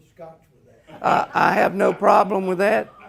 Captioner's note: audience laughing